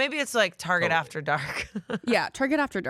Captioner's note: laughs